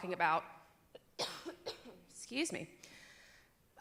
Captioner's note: cough